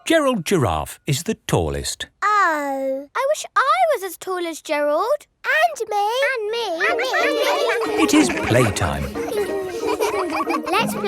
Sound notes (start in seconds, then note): 6.8 all laughing; 9.3 all giggling